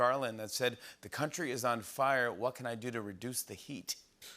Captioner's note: none